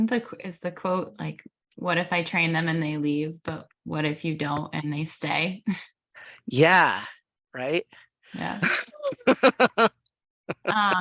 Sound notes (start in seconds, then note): 8.4 chuckles